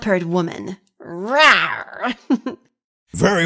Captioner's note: laughs